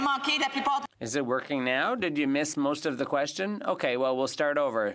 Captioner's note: speaking French